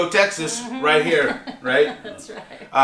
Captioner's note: laughs